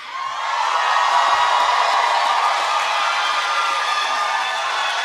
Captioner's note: cheering